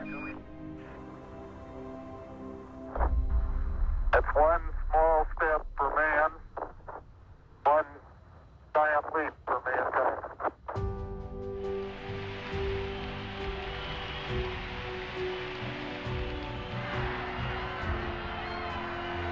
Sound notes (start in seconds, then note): 11.7 clapping and cheering; 16.2 triumphant music